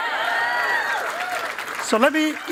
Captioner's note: cheering and applause